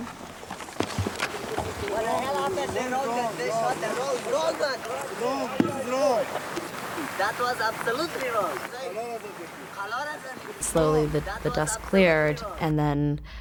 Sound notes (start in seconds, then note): 1.6 people speaking in foreign language